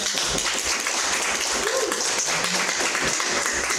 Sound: crowd applauds

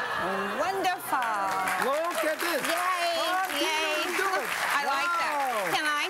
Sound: crowd; applause

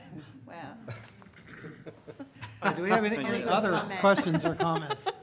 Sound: laughter

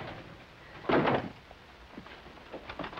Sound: door shuts; door rattles

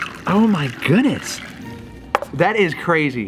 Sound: none

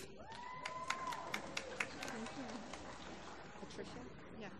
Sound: applause

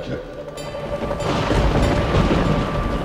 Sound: thunder rumbling

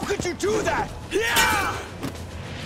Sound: grunting

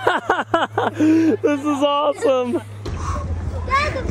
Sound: laughs; giggles; dad panting

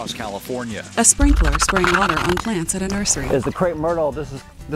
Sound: fizzing water

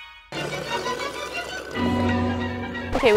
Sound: sparkly music; slurps

